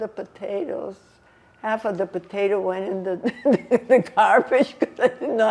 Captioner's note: laughing